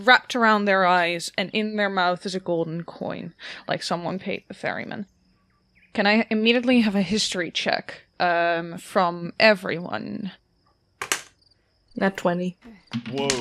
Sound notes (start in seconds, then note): 11.0 dice clacks